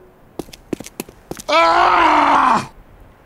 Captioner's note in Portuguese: Heavy Guy grita